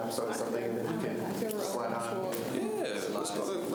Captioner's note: students chatter